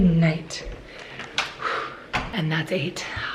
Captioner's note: sighing